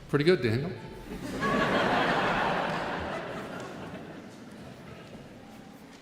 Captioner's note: audience laughing